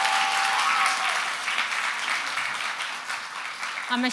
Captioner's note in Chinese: 掌聲